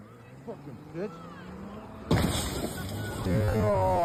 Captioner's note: sirens Blaring